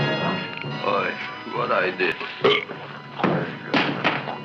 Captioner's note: Audrey Jr. Belching; gun thumping